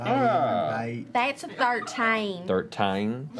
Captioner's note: exaggerated Southern accent